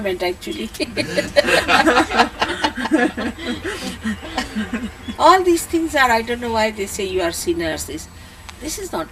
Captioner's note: laughter